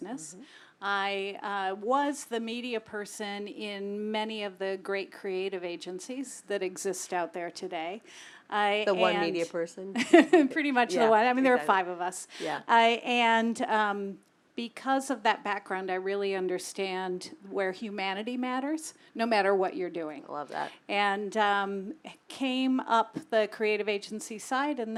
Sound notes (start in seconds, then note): 10.1 laugh